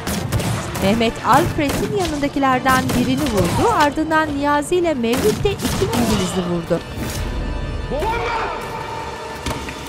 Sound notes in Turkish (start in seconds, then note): 0.0 Silah sesleri; 3.1 İnleme sesi